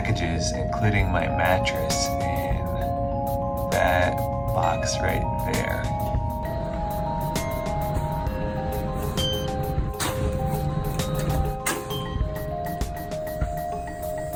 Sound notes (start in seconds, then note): 10.1 door opens